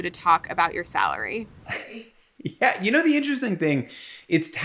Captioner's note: chuckles